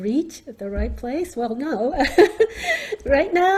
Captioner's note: laughs